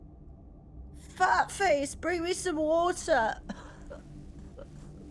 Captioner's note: brooding music; coughing